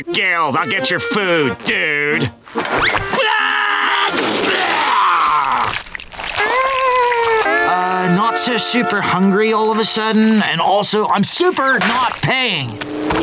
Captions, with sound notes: I'll get your food, dude! [sneezing] Uh, not so super hungry all of a sudden, and also I'm super not paying!